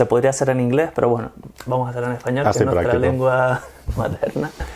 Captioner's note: Spanish